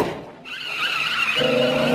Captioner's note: tires screeching